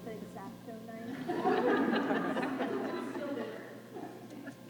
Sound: laughter

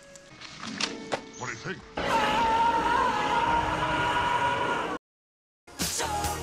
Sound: Marty screams

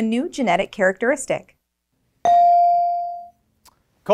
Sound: bell rings

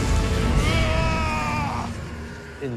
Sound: groans

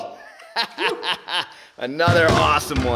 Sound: laughing

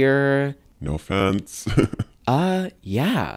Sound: laugh

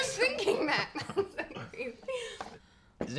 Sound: laughing

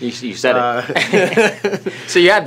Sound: both laugh

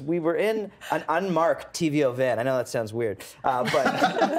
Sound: everyone laughing

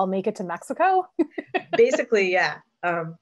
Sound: laughs

